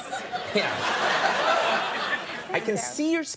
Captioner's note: audience laughing; Amy laughing